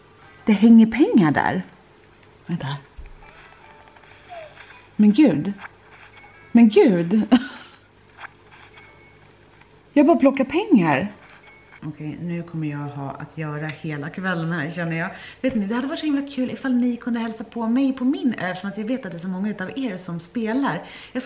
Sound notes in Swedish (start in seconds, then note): 10.3 skratt